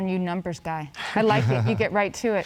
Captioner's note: laughing